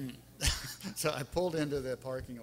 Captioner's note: laughing